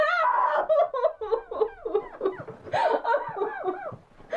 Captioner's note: Cindy screaming; Cindy crying